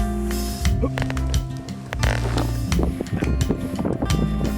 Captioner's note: sighs; grunts